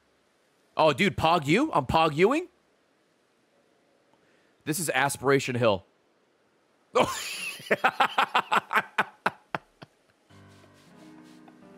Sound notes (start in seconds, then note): 7.0 laughs